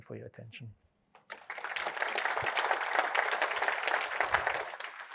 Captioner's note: applause